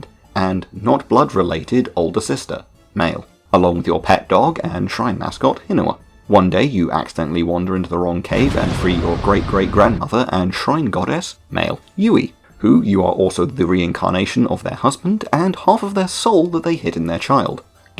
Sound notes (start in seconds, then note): 8.3 explosion